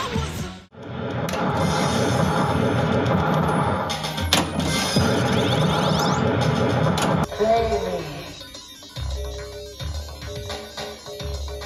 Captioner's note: pinball noises